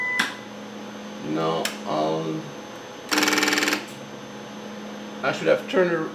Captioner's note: tape noises